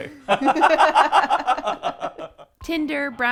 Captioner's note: laughing